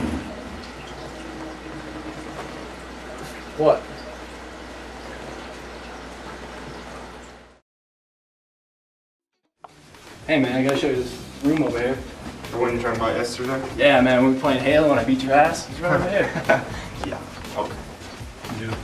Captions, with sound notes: ...What? Hey man, I gotta show you this room over here. The one you were talking about yesterday? Yeah man, when we were playing Halo and I beat your ass? It's right over here. It's right over here. [ laughter ] Yeah... okay...